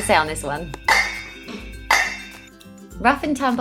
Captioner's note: pot clanking